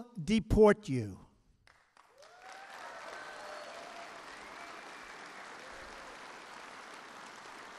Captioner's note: applause